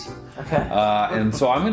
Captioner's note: laughs